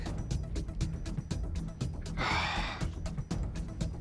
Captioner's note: sighs